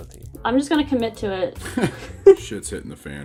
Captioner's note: laughter